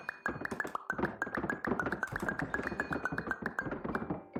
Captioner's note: pop pop pop